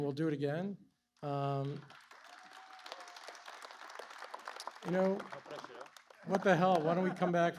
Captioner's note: applause